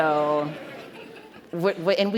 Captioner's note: laughter